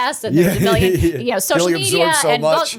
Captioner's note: chuckle